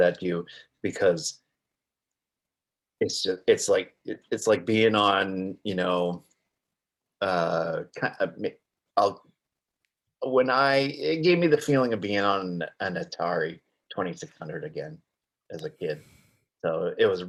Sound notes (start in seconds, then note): 6.2 stammering